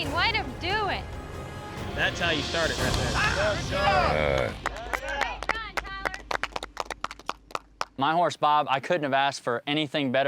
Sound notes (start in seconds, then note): 3.1 all shouting; 4.3 all clapping